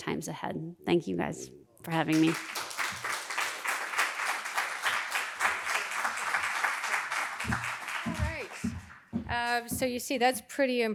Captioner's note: applause